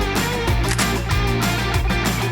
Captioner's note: camera shutter clicks